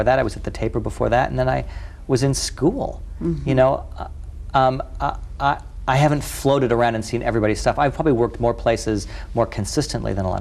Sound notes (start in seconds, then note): none